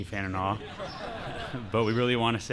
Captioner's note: laughter